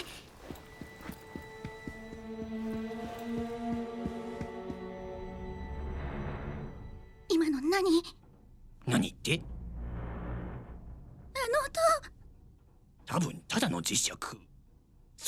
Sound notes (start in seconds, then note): 0.3 suspenseful music plays; 5.6 creaking; 7.5 whispering; 10.0 creaking